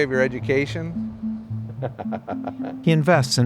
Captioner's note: laughs